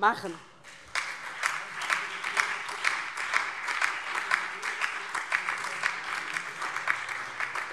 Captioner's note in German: Heiterkeit und Beifall DIE LINKE, vereinzelt CDU, BÜNDNIS 90/DIE GRÜNEN und SPD